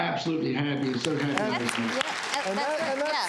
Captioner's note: audience applause